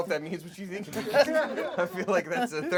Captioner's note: laughing